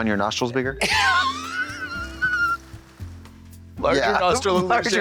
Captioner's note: Katya wheezes